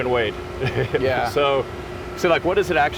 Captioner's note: Elon laughs